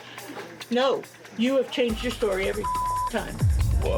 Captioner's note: beep